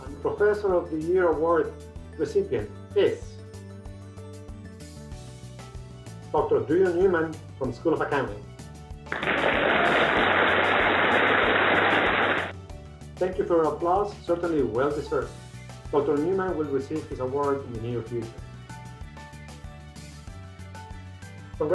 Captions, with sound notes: - And professor of the year award recipient is Dr. Drew Newman from School of Accounting. (applauding) Thank you for your applause, Certainly well deserved. Dr. Newman will receive his award in the near future.